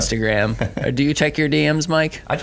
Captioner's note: laughing